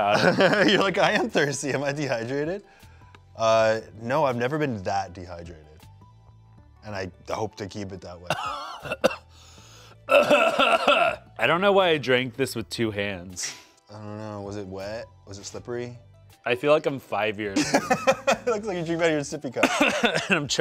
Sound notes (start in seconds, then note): 0.0 laughs; 8.4 coughing; 17.5 laughs